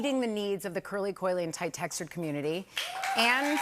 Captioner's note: cheers and applause